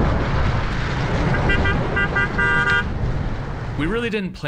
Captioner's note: car honking